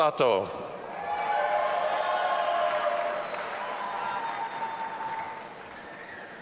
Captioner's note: audience applauding and cheering